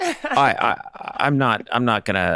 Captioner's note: laughing